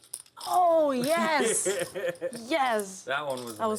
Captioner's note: laugh